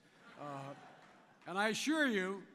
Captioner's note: laughter